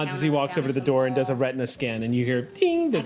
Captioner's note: beeps